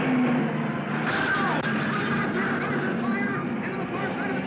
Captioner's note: car crashing